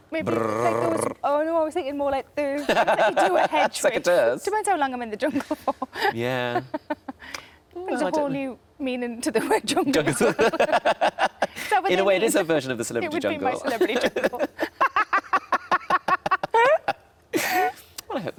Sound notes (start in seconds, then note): 0.6 Tom makes whirring sound; 2.7 Tom laughs; 5.9 laughs; 10.0 laughing; 13.6 laughing